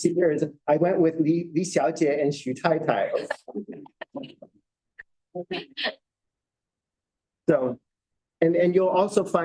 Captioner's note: laughter